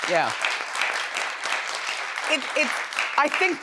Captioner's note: audience applauds